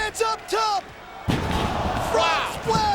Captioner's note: Mike Awesome thuds